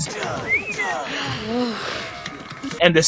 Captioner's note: sigh